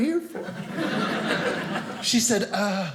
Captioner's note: audience laughing